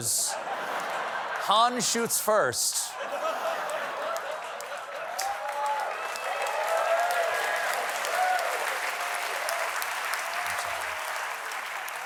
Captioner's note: applause; laughter